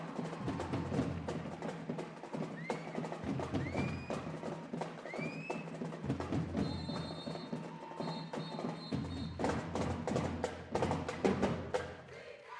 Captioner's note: cheers and applause